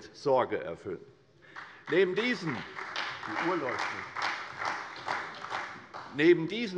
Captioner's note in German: Beifall bei der CDU